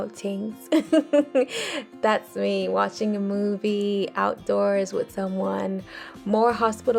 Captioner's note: chuckles